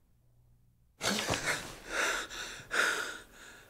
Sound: gasping

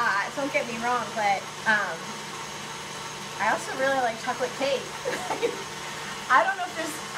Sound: laughs

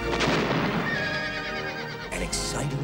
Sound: explosion and horse neighs

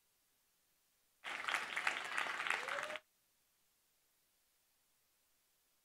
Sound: audience applauding

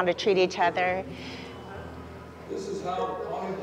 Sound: faint beep

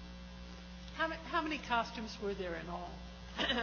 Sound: coughs

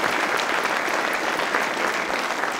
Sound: applause

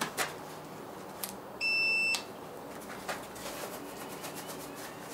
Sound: beep, machine starts up

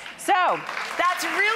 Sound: audience claps

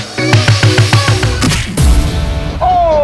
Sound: boxing punches

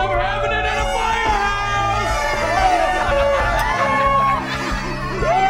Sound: cheering, party horns honking

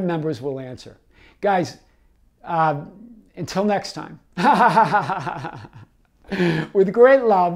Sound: laughs

